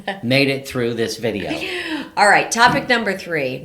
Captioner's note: laughing